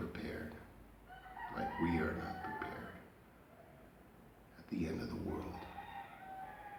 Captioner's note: roosters crowing